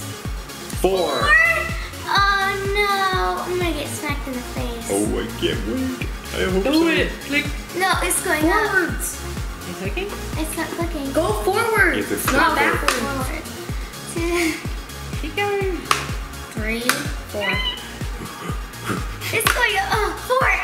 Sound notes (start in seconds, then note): 0.0 upbeat music; 13.1 clicks; 17.3 squeals